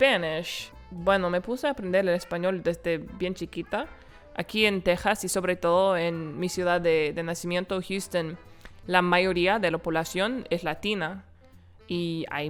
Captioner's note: speaking Spanish